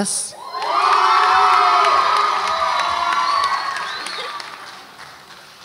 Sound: audience applauds and cheers

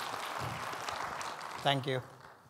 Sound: audience clapping

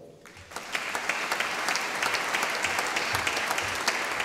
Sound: audience applauding

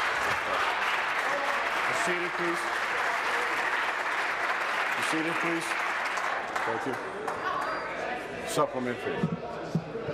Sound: applause

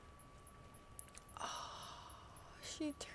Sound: gasps

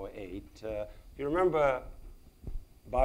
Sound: speaks in foreign language

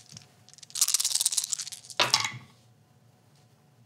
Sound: dice rattling

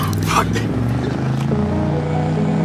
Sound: chuckles

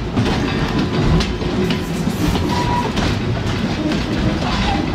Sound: train chugging

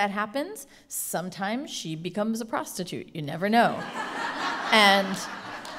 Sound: laughter

